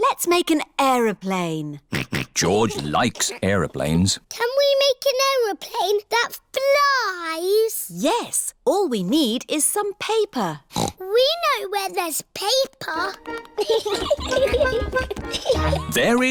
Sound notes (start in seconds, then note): 1.9 snorts; 10.7 snorts; 13.4 giggling